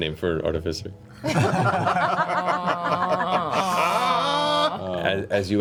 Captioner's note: laughter